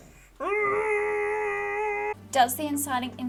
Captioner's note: screams into the void